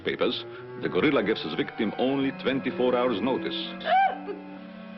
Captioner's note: gasps